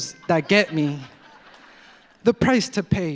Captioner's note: audience laughs